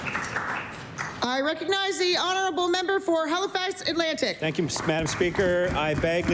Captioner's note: applause